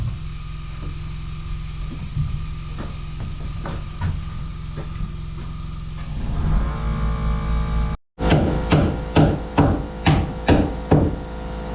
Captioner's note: motor whirring